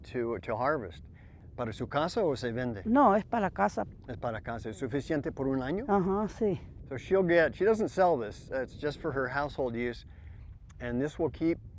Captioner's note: spanish